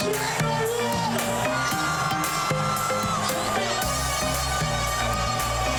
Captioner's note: crowd cheering; upbeat Trinidadian music; crowd cheering; announcer announcing; upbeat Trinidadian music continues